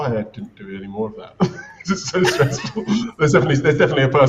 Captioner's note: laughs